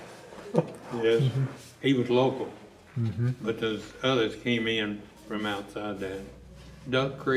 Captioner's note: laughter